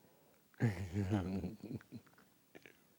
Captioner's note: laughs